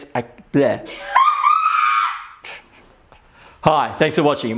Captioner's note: woman laughs